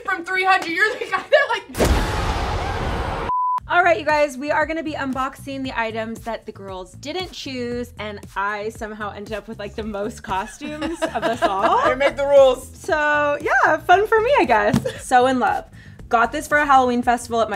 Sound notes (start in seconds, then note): 1.7 thunderous bang; 2.0 screaming; 3.2 beep